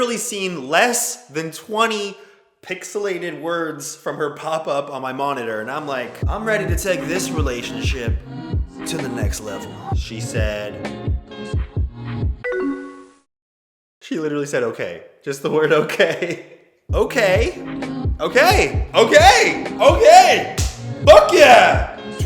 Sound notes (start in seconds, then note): 15.5 laughing; 20.6 claps